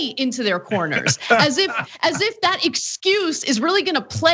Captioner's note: laugh